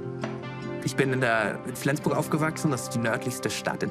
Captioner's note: non-english speech